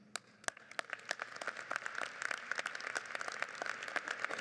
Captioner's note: audience applauds